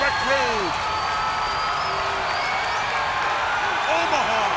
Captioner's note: crowd cheering